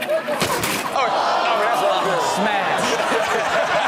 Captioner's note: audience groans; all laugh